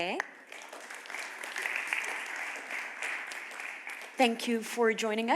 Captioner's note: applause